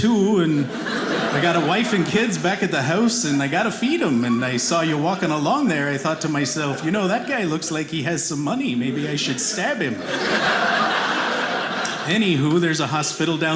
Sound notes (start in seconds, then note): 10.3 audience laughing